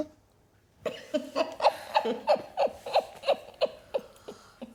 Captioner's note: laughing